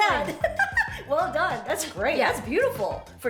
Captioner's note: giggles